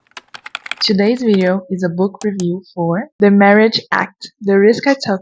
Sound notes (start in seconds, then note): 0.0 typing sound; 0.0 mouse clicking sound